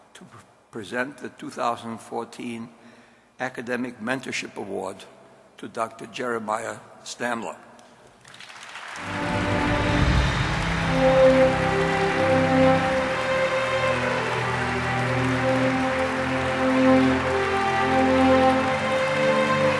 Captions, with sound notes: to present the 2014 Academic Mentorship Award to Dr. Jeremiah Stamler. (audience applause) (regal music)